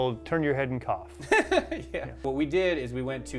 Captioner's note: chuckling